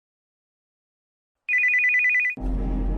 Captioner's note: phone rings